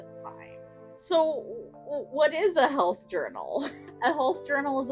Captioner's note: laughs quietly